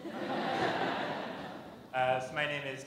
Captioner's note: laughter